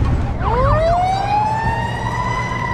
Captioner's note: sirens